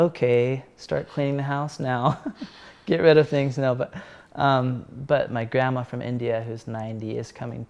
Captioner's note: laugh